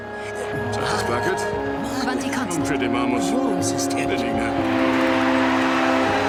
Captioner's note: people speaking foreign language